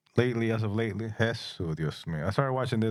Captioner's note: speaking In Spanish